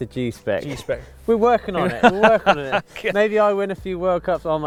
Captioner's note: laughs